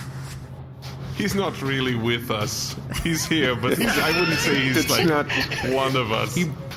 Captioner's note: laughing